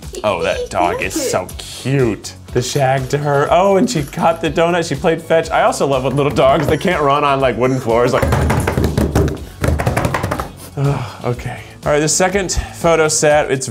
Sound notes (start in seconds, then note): 8.1 slapping; 10.7 sighs